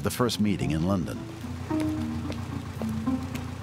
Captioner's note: raining